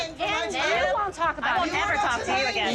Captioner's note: overlapping shouting